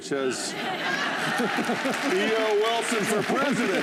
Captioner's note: applause